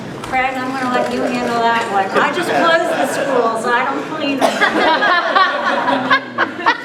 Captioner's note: laughter